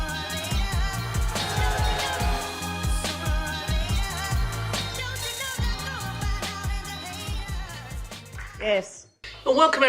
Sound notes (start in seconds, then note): 1.3 cheering